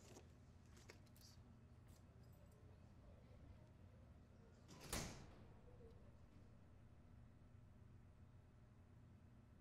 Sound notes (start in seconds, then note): 4.8 door closes